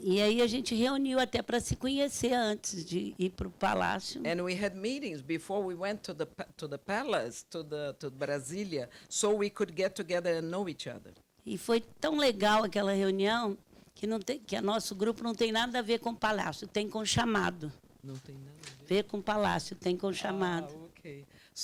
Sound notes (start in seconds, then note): 0.2 speaking Portuguese; 11.6 speaking Portuguese